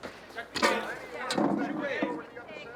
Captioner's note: indistinct chatter